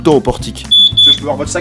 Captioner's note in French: bip bip